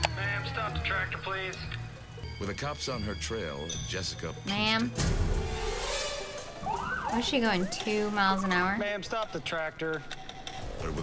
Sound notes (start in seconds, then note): 5.3 siren blaring